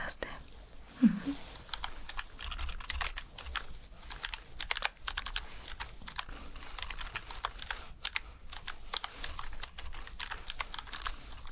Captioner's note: typing sounds